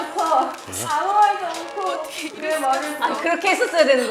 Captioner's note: almost crying